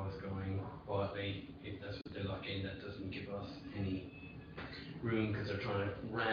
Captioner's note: audio distorts